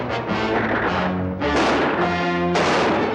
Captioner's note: gunshots